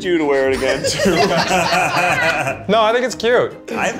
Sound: group laughs

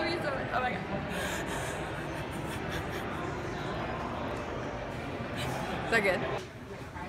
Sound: crying tears of joy

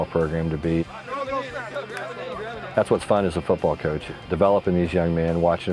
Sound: players all talking

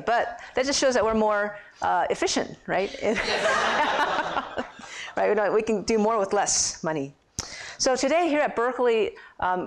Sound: laughter

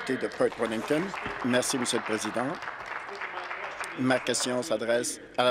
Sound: applause

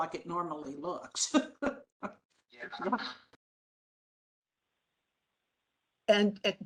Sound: laughing

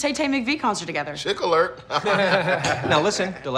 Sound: laughter

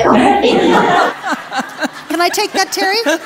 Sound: laughs

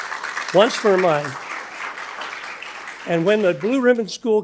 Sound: attendees applauding

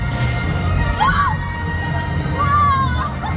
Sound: screaming

